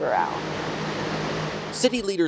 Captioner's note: water splashing